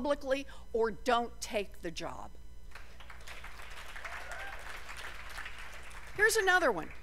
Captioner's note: applause